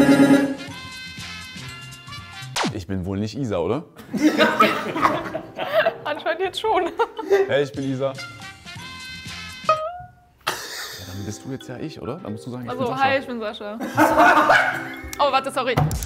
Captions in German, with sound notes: (Fröhliche Musik) Ich bin wohl nicht Isa, oder? (Gelächter) Anscheinend jetzt schon. Hey, ich bin Isa. (Fröhliche Musik) Ja, dann bist du jetzt ja ich, oder? Ach so, hi, ich bin Sascha. (Gelächter) Oh, warte, sorry.